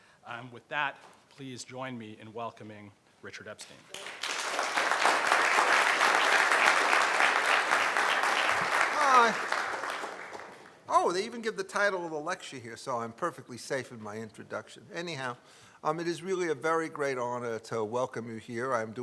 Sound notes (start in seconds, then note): 3.9 audience applauding